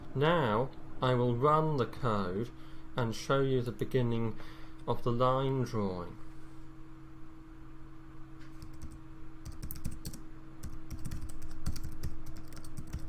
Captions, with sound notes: Now I will run the code and show you the beginning of the line drawing. (keyboard tapping)